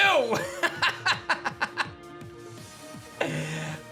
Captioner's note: laughs